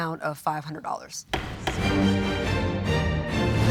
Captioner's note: gavel pounding; tense music